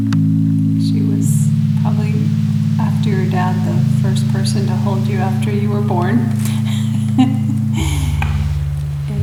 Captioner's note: laughter